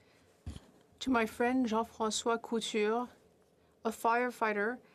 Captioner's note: speaking French